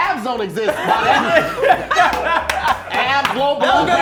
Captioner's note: laughing